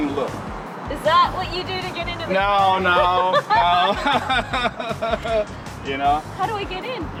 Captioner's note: laughs